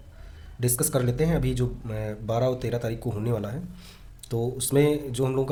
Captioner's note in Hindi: नाक से की जाने वाली आवाज़